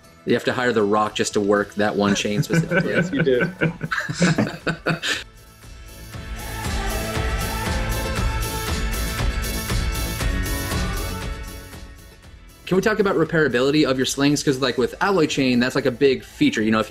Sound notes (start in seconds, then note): 4.5 laughter; 8.3 upbeat music